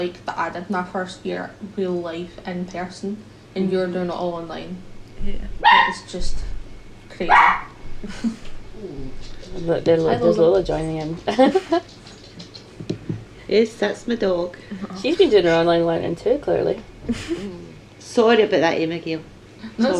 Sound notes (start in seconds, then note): 5.6 dog barking; 11.1 laughs; 17.0 laughs